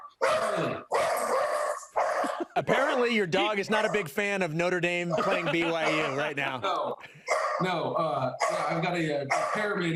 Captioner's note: dog barking